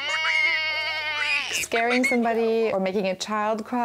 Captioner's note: baaing